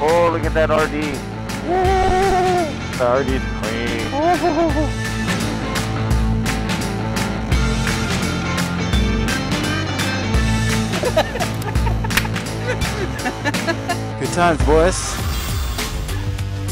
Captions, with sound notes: - Oh, look at that RD. - Ooohooohoooohhh - The RD is clean. - Ooohhoooh (Laughter) The Adventure Continues... - Good times, boys.